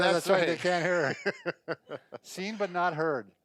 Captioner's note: laughing